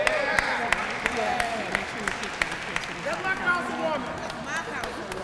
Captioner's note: applause